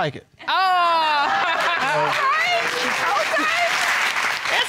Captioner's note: laughs